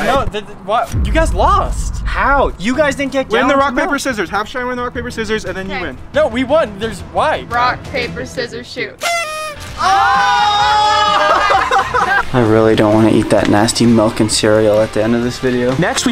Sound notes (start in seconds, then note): 9.1 horn blaring; 10.5 all laughing